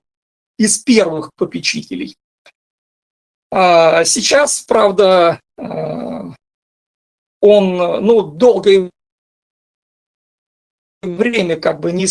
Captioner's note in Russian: стон